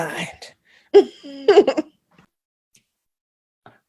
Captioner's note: giggling